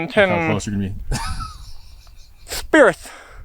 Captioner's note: laughing